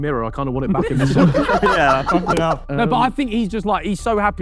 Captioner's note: group laughing